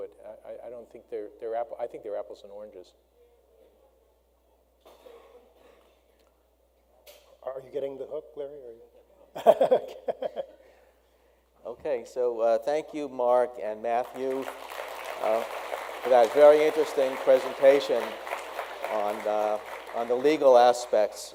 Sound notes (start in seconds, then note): 9.8 laughs; 13.9 audience applauds